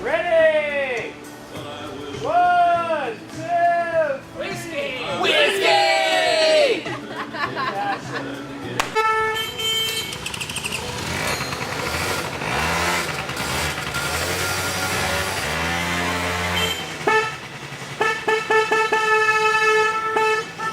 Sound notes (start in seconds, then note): 6.8 laughter; 9.3 scooters starting and revving; 16.7 horns honking